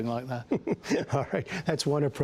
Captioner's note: laughter